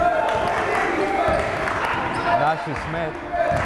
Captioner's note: yelling